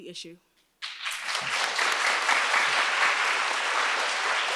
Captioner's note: audience applauds